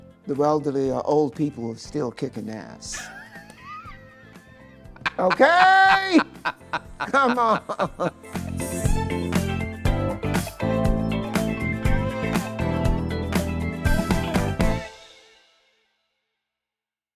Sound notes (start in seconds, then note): 3.2 laughing; 8.3 upbeat music